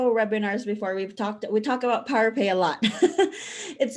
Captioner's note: chuckles